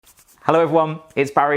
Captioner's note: rubbing